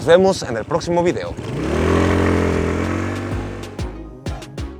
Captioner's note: engine revs